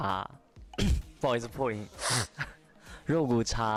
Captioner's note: clear throat